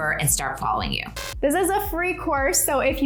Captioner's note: static buzzing